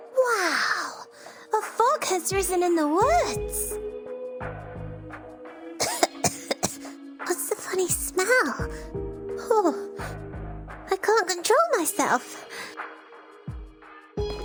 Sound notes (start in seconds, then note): 5.8 cough